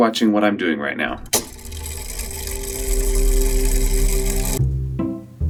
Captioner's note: mechanism whirring